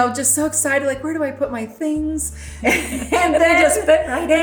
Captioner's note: laughs